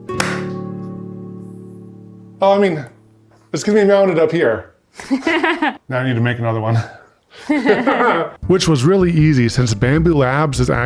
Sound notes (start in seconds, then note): 0.3 claps; 4.9 laughs